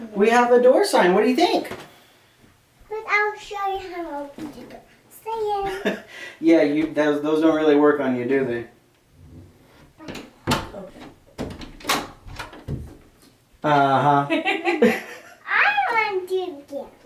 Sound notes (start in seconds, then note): 9.8 laughing